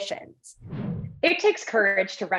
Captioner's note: graphics whooshing